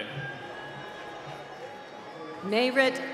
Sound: cheering

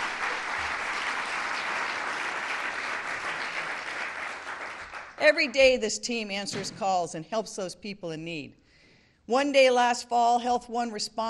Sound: applause

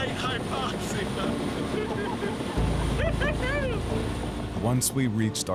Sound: laughing

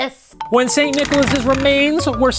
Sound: playful music; rattling

